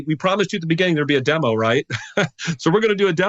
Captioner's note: chuckles